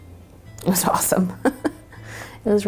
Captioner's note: laughs